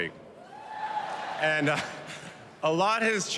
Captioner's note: cheers and applause